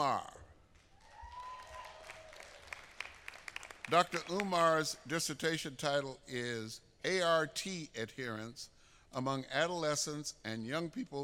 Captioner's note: applause